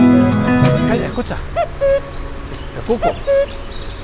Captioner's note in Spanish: canto del cuco